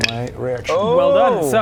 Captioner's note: impressed noises